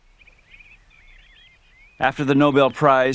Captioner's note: birds Chirping